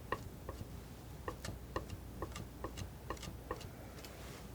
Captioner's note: tapping; tapping